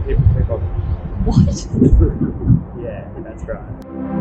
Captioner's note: laughing